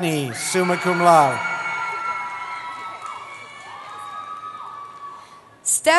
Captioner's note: cheering